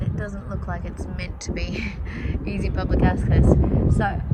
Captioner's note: laughs quietly